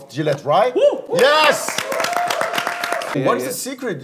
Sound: everyone clapping

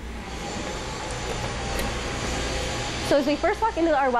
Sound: machines whirring

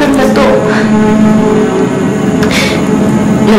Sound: sobs

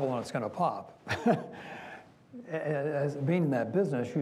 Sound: chuckles

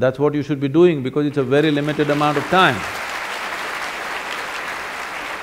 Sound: applause

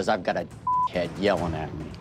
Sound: beep

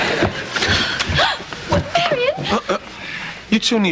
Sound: gasps

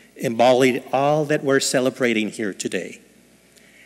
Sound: none

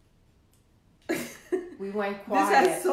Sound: chuckling

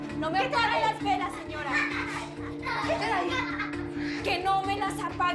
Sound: Risas

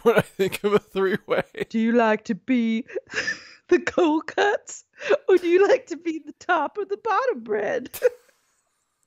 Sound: laughs

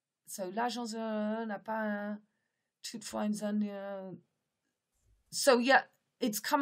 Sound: speaks in French

